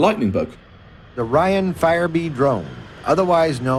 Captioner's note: soundbite of archived recording